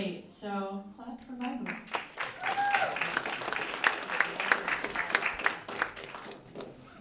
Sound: applause

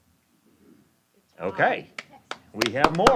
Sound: applause

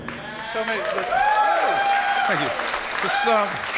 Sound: applause

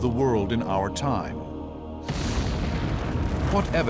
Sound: explosion

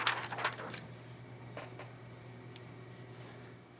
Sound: rustling

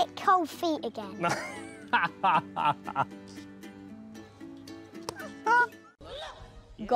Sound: laughs

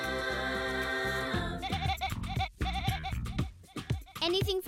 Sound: bleating to the beat

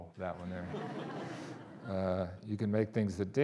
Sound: audience laughing

